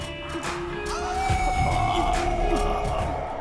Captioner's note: howl